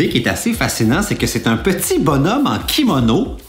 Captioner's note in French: none